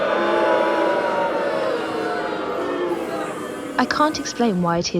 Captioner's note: booing